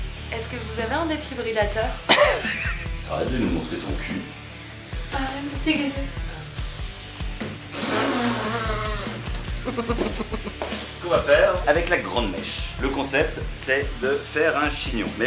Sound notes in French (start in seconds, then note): 4.8 tentative de chant ratée; 8.0 rire gêné